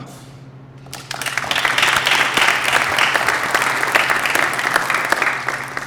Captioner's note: applause